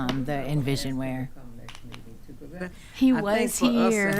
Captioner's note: speaking quietly